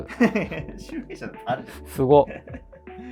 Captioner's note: laughing